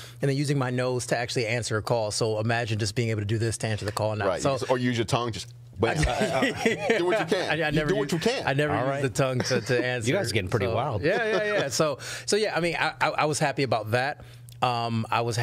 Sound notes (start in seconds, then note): 5.9 laughing